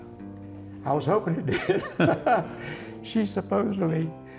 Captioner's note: chuckles